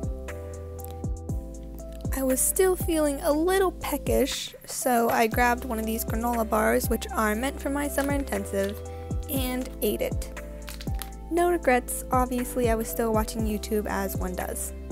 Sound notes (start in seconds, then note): 10.6 wrapper crinkling